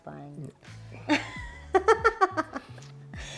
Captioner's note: laughs